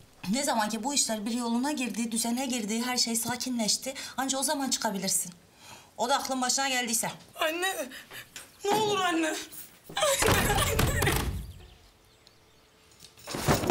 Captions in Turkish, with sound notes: ..ne zaman ki bu işler bir yoluna girdi düzene girdi her şey sakinleşti.. ..anca o zaman çıkabilirsin. O da aklın başına geldiyse. Anne. Ne olur anne. (Ağlıyor) Anne. Anne.